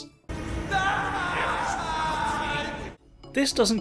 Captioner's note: Runaan screams